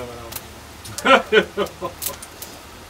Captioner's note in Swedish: Skratt